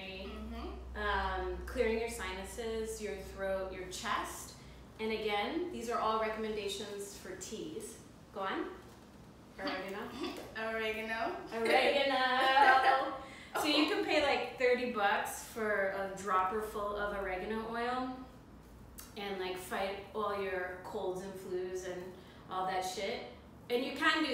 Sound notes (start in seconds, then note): 12.3 laugh; 12.4 laughter